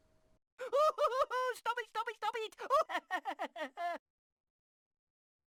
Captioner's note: teacher laughing whilst being tickled